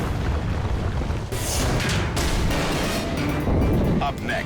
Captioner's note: dramatic music; metal thuds